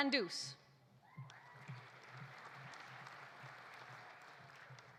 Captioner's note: audience applauding